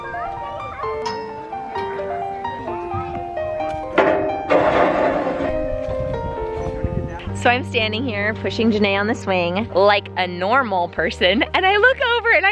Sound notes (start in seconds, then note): 0.1 gentle music; 4.2 playground equipment bangs